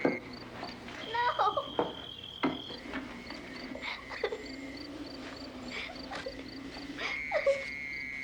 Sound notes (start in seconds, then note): 3.0 whimpering